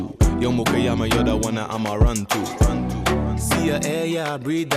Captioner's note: non-english